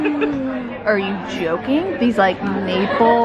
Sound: gasps

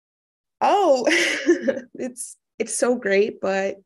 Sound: chuckling

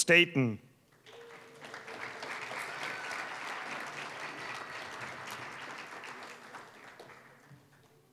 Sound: applause

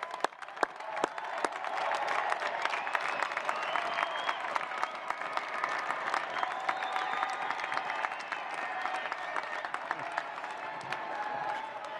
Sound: applause

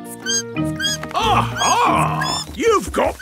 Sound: bat squeaking

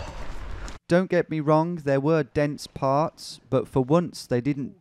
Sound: voiceover

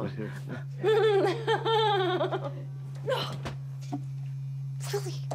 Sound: Maggie laughs

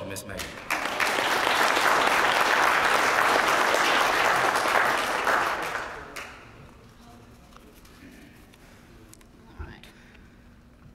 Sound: applause

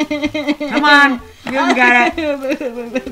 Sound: head cries; head in the box cries

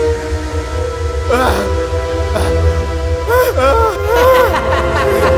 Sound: yelling; laughs Hysterically

